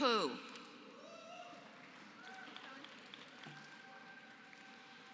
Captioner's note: applause